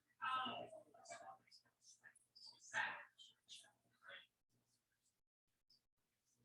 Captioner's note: people chattering indistinctly continues